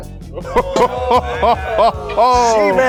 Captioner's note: crowd